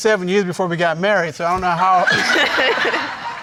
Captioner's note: all laughing